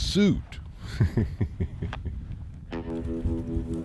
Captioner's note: laughs